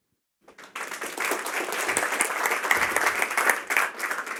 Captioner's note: applause